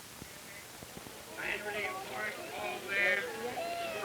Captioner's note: auctioneer chanting